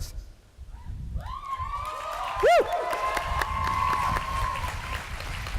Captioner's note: cheering, applause